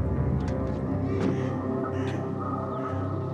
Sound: crow cawing

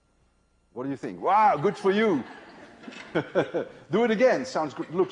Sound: laughter

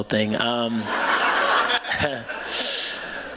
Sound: laughter

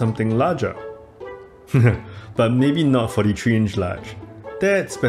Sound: laugh

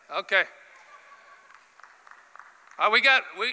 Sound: applause

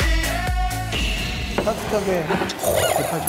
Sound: sniff Sniff

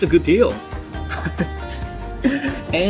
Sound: chuckles

